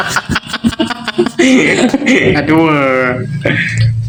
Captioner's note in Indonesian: tertawa